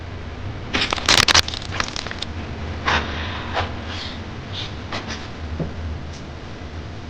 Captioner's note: electricity sizzling; crackling